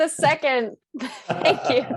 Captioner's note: laughter